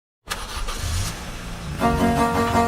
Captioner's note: starting engine